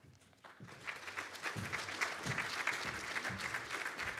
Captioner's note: audience clapping